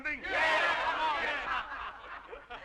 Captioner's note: crowd